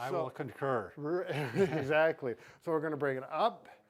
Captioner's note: laughs